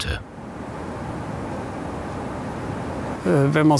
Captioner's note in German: Verkehrsrauschen, leises Gespräch